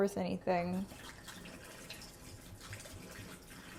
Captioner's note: splashing